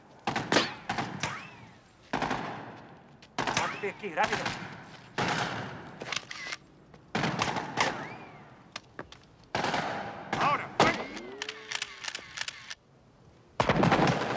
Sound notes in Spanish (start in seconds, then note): 6.0 shutter clicks; 10.8 shutter clicking